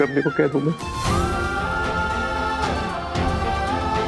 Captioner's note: emotional vocalising